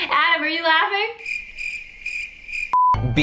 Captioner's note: crickets chirping; beep